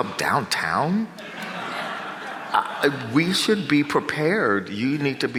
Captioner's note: audience laughs